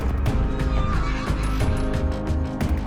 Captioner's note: horse whinnies